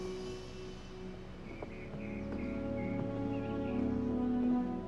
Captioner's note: birds chirping